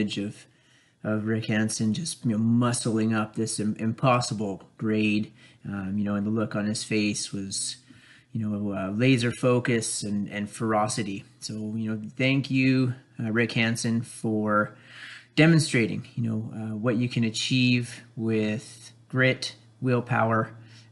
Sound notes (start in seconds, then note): none